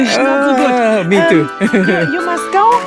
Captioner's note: laughs